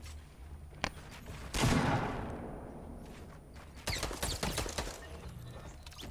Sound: gunshots

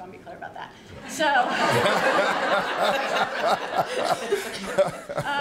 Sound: laughter

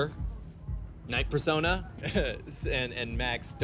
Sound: laughs

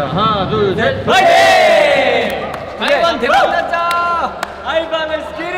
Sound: yells out to psyche up before shooting their group dance!

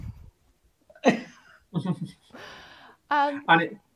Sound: laughter

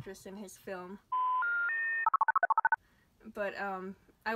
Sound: phone dialing noises

